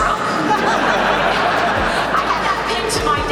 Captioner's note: crowd laughs